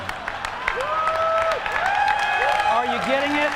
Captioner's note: cheers and applause